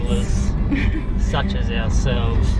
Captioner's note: laughs